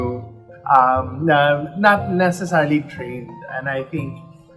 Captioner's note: none